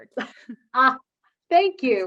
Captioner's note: laughs